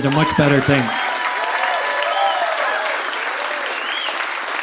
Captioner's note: audience applauding